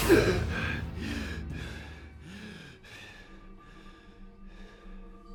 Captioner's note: person breathing